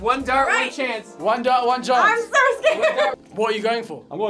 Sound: laughs

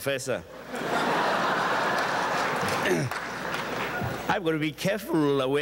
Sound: audience chuckles

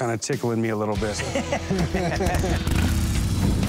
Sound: laughter

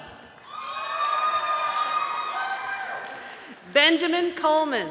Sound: audience applauding

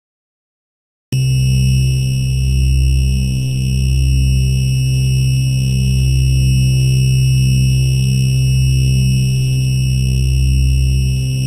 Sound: drone sound

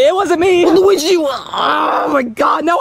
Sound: groaning

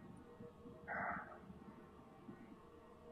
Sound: sighs

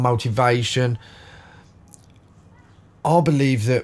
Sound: silence

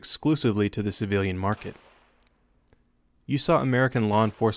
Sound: gunfire; gunfire

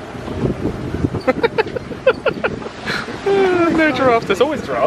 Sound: laughs

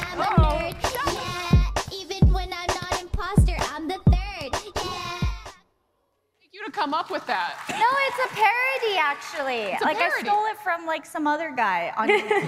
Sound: applause

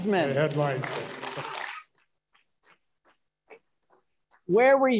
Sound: audience applauding

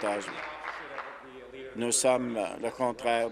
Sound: applause

